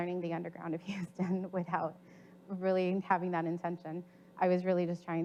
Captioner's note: chuckles